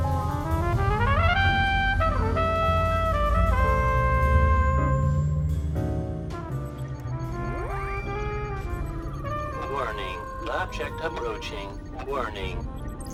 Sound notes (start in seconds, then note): 6.5 system beeping